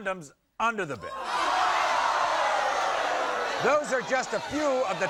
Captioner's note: audience shouts